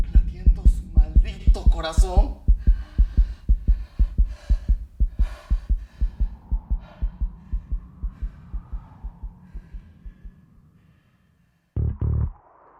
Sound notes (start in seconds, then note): 3.9 continuous heartbeat